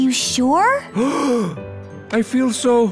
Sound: gasps

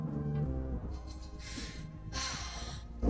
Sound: sighs

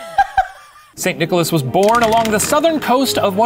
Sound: laughs; choral music; rattling

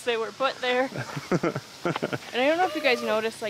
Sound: laughs

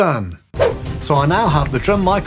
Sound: whoosh sfx

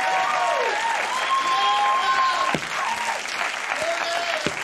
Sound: audience cheering

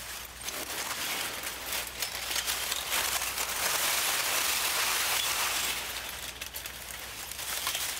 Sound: metal clinking

